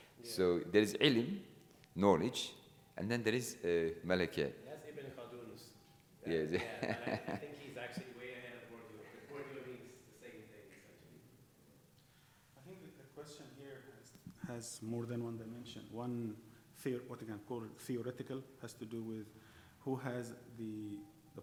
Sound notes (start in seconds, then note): 5.0 speaking in foreign language